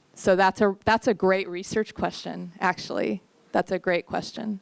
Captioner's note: none